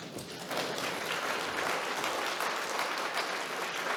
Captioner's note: audience clapping